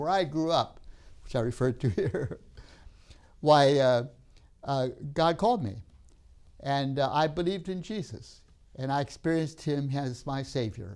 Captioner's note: laughs